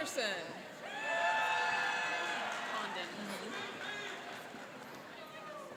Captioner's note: cheering and applauding